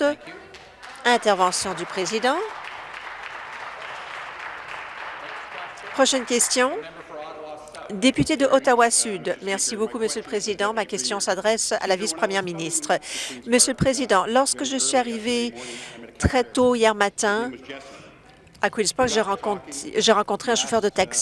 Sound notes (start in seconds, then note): 3.9 some Applause